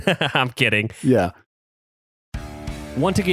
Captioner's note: laughs